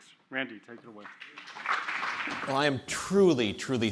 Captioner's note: audience applauds